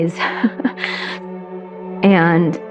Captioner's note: lauaughghs